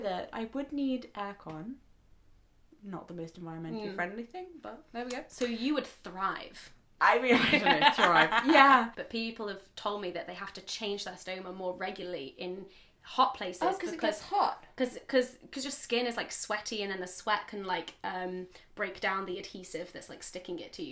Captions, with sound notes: I would need air-con, not the most environmentally friendly thing but there we go. - So you would thrive? (laugh) People have told me that they have to change their stoma more regularly in hot places because-- - Oh, because it gets hot? - Because your skin is like sweaty and then the sweat can break down the adhesive that's sticking into you,